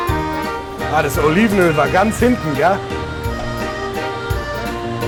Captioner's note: speaking German